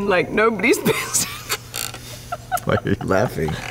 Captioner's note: laughs